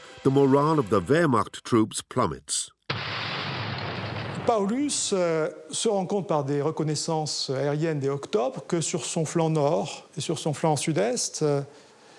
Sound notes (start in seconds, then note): 2.9 explosion booms